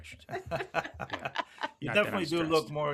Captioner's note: laughing